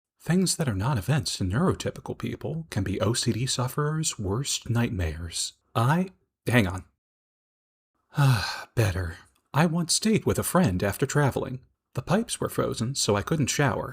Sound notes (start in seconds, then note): 8.1 sighs